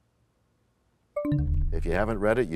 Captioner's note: bell chimes, time expires